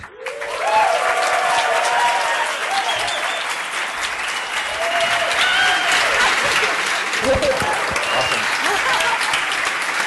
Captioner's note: applause